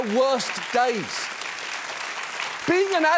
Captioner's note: audience applauding